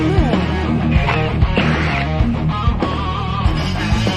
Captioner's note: whirring